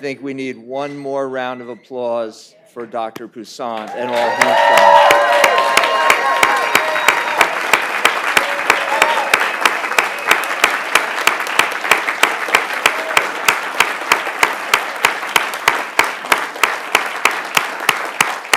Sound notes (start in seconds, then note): 5.0 cheering and applause